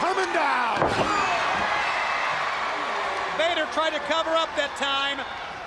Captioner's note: crowd cheering